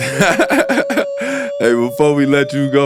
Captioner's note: laughing